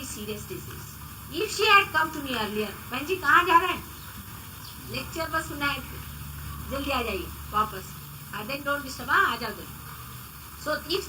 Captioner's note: Shri Mataji speaks in Hindi to someone